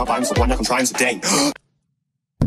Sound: gasp of air

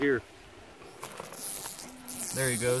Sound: light fast rattle

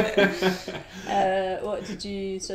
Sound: both laugh

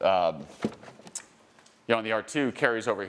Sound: car door clicks

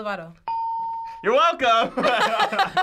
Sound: ding

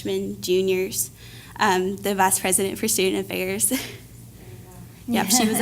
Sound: laugh

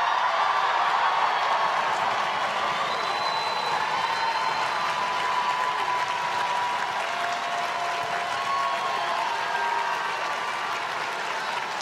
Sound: applause

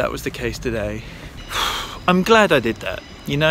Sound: exhales

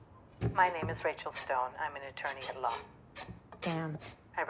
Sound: voice on the phone

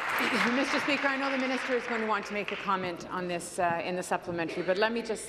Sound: applause

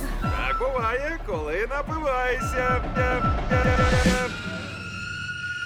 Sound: echoing; screams

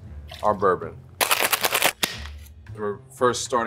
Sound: ice clattering

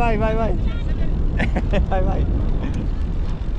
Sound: laughs

